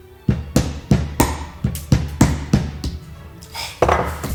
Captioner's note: hammer banging